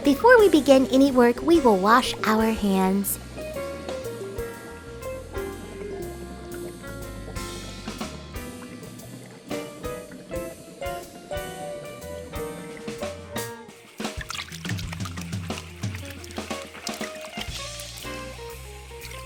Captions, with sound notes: Before we begin any work, we will wash our hands. (water splashing)